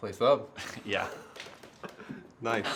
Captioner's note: laughs; laughter